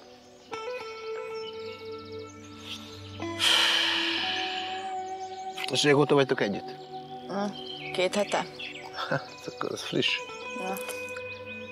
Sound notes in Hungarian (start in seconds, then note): 3.3 sighs